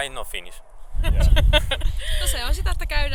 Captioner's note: both laugh